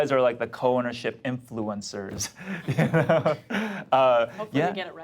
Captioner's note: laughs